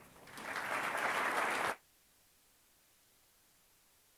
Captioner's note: audience applauds